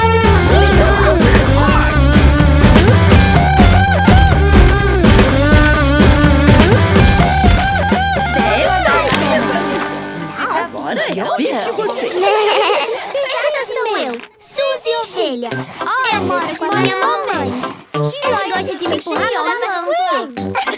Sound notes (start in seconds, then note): 2.1 upbeat rock music; 10.8 children giggling